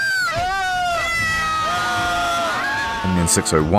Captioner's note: cheering